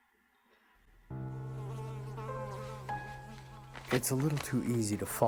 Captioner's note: somber piano music; fly buzzing